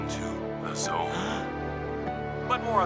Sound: gasping

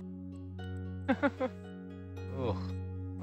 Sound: diver 3 laughs

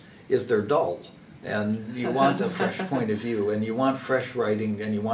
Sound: laugh

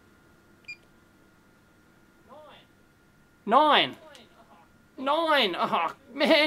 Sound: beep

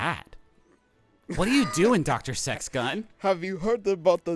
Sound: wheezing

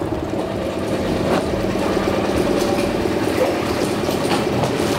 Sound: boat engine purr echoing

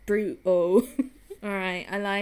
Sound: giggles

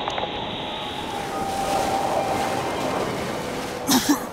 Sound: wind howls; coughs

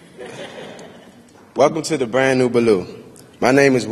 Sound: laughter

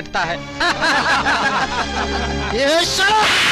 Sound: laughing

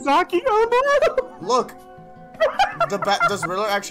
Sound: dies of embarrassed laughter

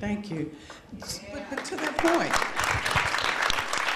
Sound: applause

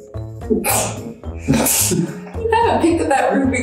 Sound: laughs

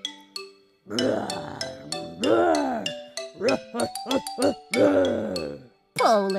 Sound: grrr! Grrr! Grrr!

